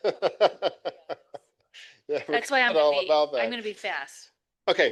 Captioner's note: laugh